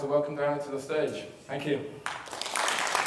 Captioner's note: applause